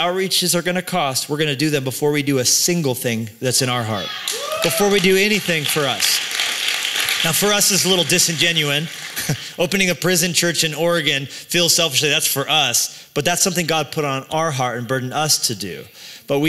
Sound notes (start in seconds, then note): 6.2 applause